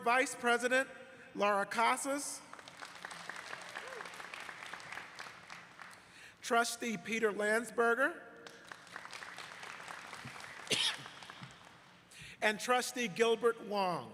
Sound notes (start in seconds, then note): 0.2 applause; 5.9 applause